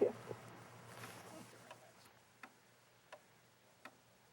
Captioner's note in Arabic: دقات الساعة